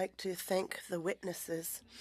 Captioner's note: speaking French